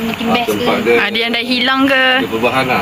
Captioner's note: interfering